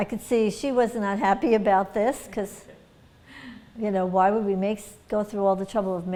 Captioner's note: laughter